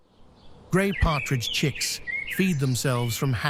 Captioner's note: birds chirping